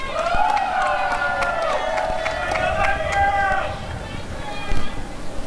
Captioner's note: applause and cheering